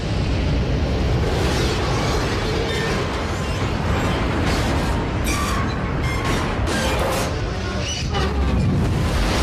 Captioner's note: cracking and screeching